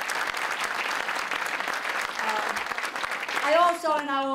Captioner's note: applause